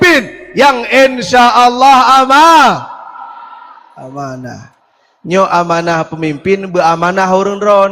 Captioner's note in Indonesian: berteriak